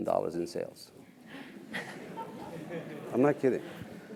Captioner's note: laugh